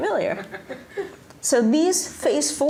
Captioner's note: laughter